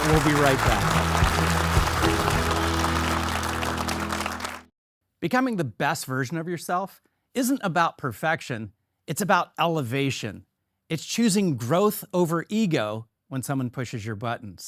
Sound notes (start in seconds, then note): 2.7 audience clap; 2.7 bright music